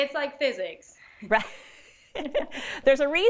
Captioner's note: both chuckles